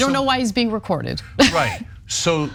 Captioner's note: laugh